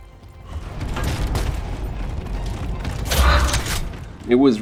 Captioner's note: guns shooting